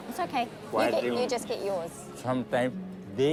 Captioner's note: none